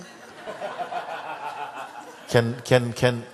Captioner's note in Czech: smích